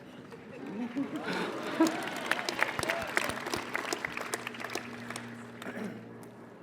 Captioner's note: applause